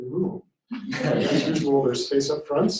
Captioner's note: laughter